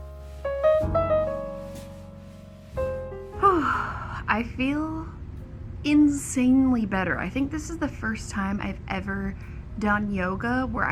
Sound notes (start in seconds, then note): 3.4 exhales